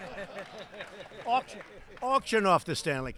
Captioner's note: laughter and applause